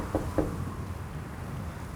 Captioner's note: none